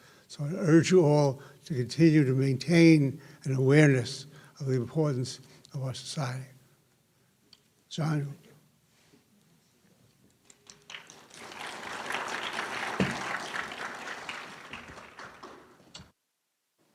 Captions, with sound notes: So I urge you all to continue to maintain an awareness of the importance of our society, John. [Clapping]